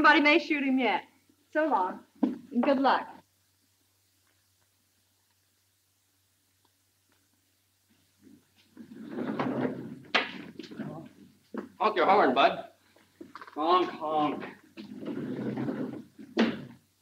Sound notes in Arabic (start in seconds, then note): 8.7 كشط الأبواب; 14.7 صوت احتكاك الأبواب